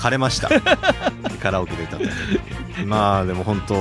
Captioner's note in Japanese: 笑い